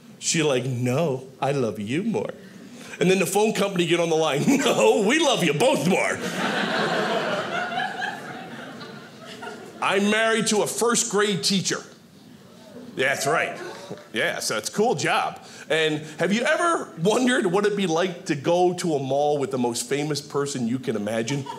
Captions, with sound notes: She's like, "No, I love you more." And then the phone company'd get on the line, "No, we love you both more." (audience laughing) I'm married to a first grade teacher. That's right, yeah, so it's a cool job and have you ever wondered what it'd be like to go to a mall with the most famous person you can imagine?